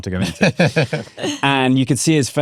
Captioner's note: laughing